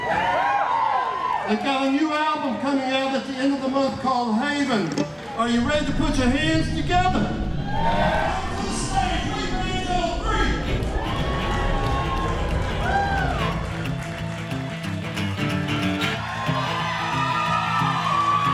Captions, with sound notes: (audience cheering) They've got a new album coming out at the end of the month called Haven. Are you ready to put your hands together. (audience cheering) Coming this way, We Banjo 3! (upbeat music) (audience cheering)